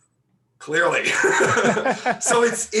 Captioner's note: laughing